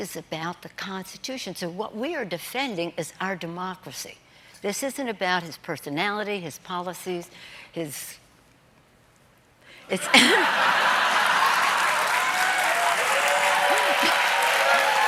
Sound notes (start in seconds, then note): 13.6 laughter; 13.8 cheers and applause